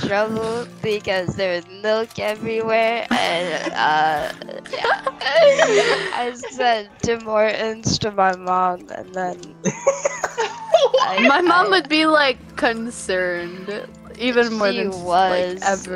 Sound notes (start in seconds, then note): 9.6 laughter